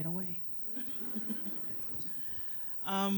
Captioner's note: laughter